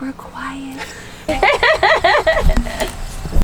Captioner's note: laughing